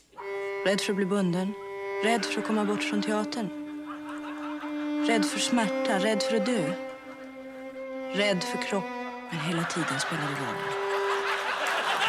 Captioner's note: speaking swedish